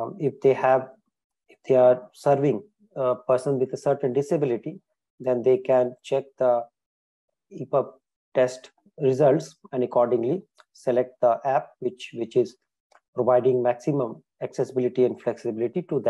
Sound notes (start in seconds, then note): none